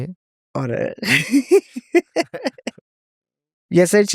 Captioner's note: laughs